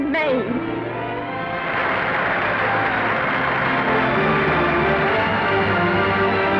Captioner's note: orchestral music; audience applauding